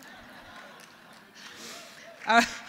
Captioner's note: laughter